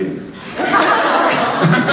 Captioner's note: laughs